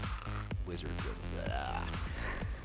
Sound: blubbering and laughing

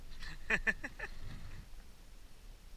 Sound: laughing

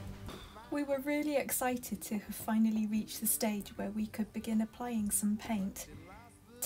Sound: voiceover

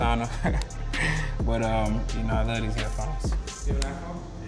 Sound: laughs

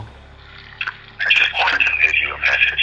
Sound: recorded Voice

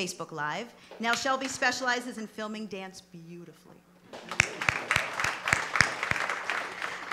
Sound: applause

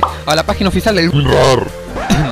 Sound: coughs

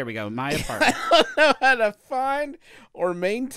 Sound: laughs

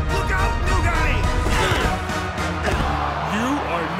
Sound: epic music; grunts

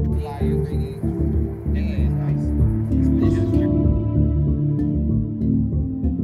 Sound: men chattering in faded tones

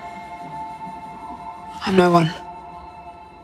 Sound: voiceover

